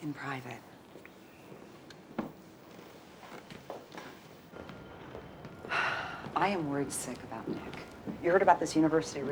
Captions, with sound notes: (sighs) I am worried sick about Nick.